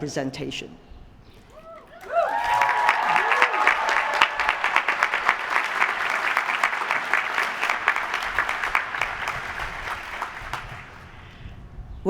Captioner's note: applause